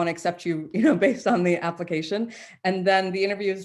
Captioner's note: chuckles